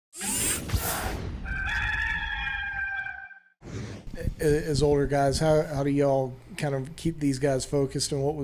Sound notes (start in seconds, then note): 1.4 rooster crows